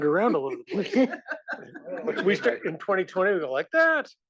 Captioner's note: laugh